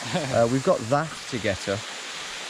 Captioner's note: chuckles